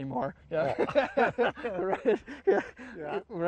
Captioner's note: both laugh